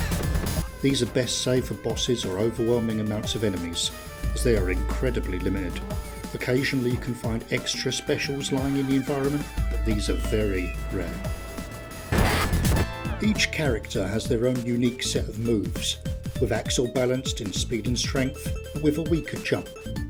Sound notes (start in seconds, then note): 12.1 fwoom!